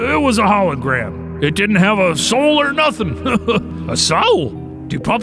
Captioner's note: chuckles